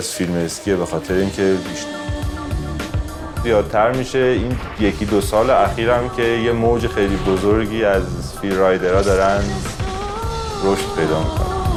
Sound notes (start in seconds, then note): 4.8 speaks in other language: translation on screen